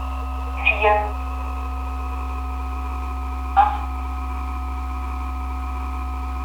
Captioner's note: radio announcer speaking in foreign language